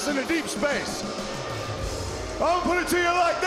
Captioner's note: audience booing